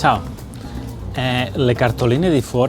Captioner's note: in Italian